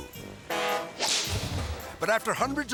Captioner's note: boat horn blowing